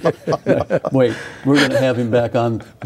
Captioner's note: laughing